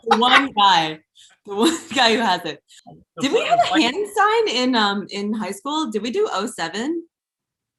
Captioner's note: laughter